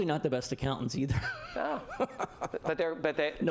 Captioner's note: laughter